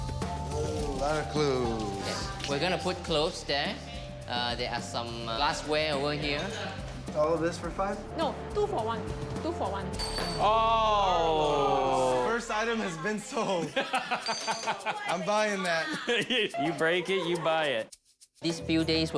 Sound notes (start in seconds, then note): 9.9 glass shatters; 13.4 laughs